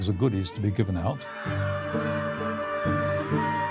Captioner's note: yelling and cheering